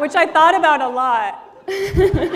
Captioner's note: laughter